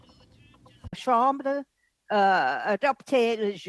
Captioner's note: speaking French